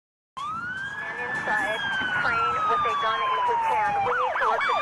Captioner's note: siren blares